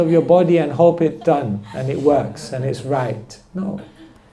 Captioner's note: laughter